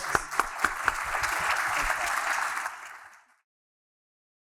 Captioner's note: applause